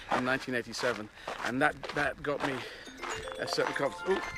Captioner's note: chimes